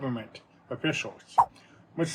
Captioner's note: swipe sound